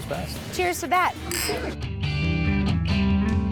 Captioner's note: glasses clink